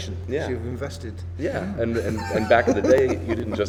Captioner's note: laughs